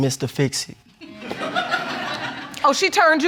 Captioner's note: audience laughing